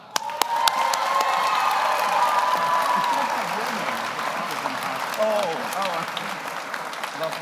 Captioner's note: audience applauds; audience cheers